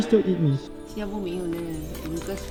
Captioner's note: in Mandarin